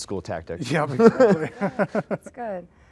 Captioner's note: both laughing